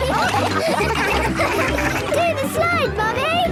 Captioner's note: all laughing